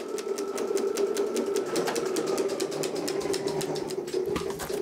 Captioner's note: whirring slows down and fades away